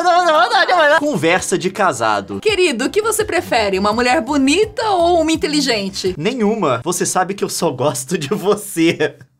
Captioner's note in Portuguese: risada